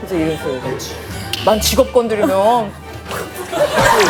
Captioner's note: outraged